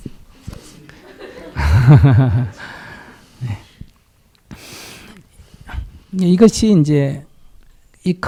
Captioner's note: Sunim laughs